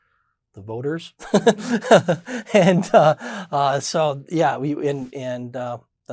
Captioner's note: laughs